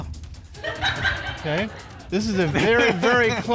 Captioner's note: audience chuckles